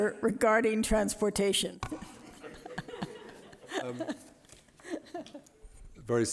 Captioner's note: laughter